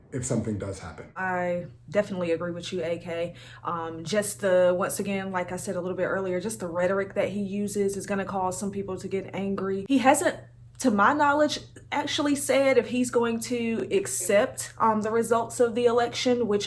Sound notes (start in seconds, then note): none